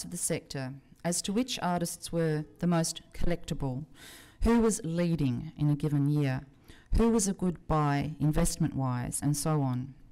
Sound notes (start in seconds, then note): none